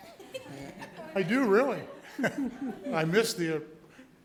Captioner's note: laughs